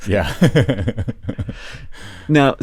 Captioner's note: laughs